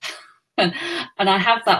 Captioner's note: laughs